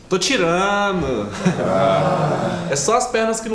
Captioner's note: people sigh in relief